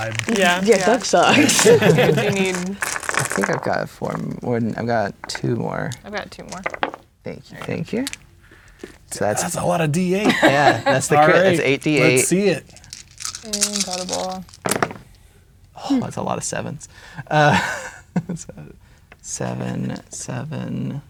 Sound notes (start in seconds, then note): 1.1 players laughing; 2.8 dice rattling; 6.4 dice rolling; 10.0 laughing; 12.6 dice rattling; 14.6 dice rolling